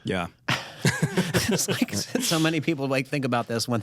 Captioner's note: laughter